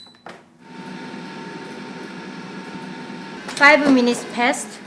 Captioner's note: fryer whirring